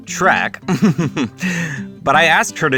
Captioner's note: chuckles